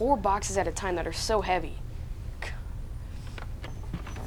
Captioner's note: scoffs